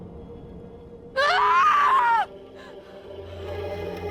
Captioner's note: screaming